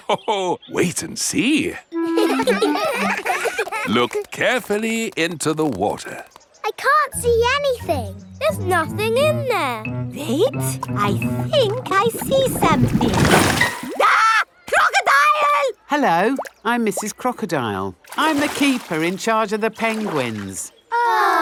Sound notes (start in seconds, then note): 2.0 children laughing; 2.0 laughs; 14.0 screams